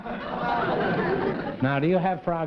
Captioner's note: laughter